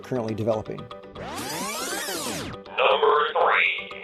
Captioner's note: electronic zipping